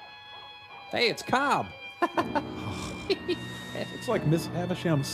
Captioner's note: laughs